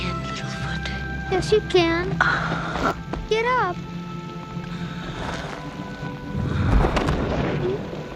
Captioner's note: sighs